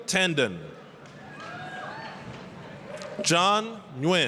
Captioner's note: applause, cheering